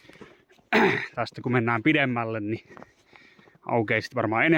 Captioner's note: ahem